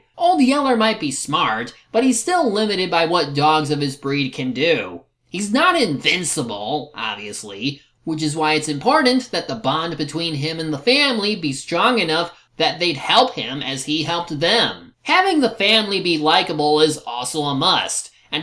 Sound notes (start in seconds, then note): none